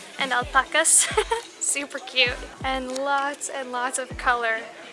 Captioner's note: giggles